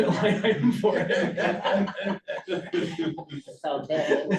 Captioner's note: laughter